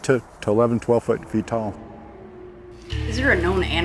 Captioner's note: animal howling; haunting music